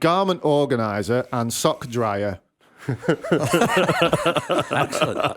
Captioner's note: laughter